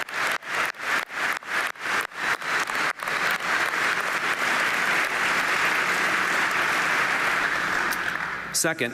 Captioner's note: applause